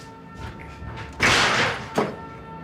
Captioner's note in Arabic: يغلق الباب